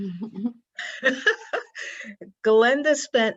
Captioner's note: laughs